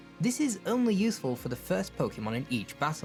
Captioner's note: none